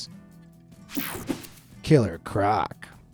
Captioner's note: screen buzzes and whooshes